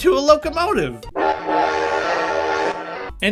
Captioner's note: intimidating train whistle